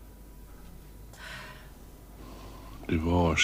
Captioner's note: sighs